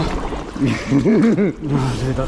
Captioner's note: laughs